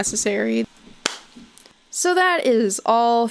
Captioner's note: claps once